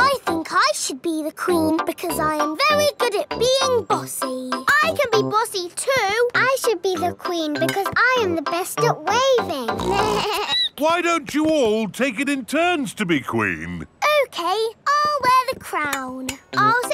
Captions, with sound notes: I think I should be the queen because I am very good at being bossy! I can be bossy, too! I should be the queen because I am the best at waving! (SNORTS) (BLEATS) Why don't you all take it in turns to be queen? Okay, I'll wear the crown.